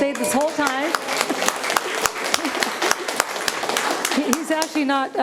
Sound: attendees applauding

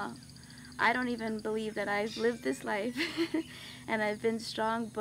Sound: chuckles

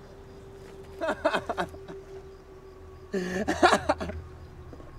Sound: Chad laughing

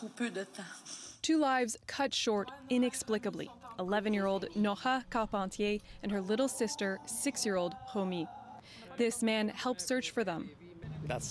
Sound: speaking French

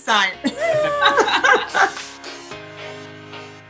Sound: all laugh

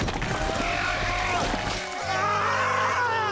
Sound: Tobor yells

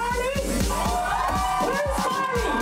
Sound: crowd cheering

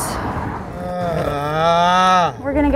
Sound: man groans

